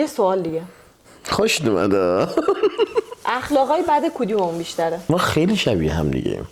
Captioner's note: laughs